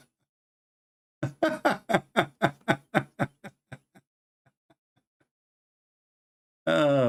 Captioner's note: Ketawa